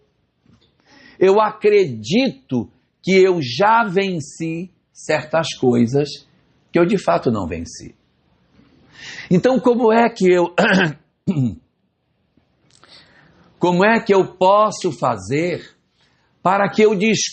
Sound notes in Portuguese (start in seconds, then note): 10.5 tosse; 11.2 limpando a garganta